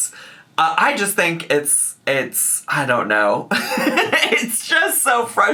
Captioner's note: chuckles